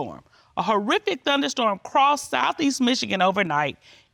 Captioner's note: judge dana reading